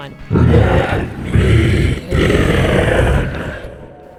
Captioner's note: growling